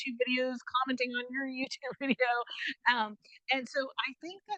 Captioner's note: chuckles